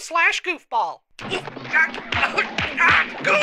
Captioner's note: grunting, groaning